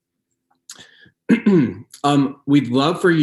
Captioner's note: clears throat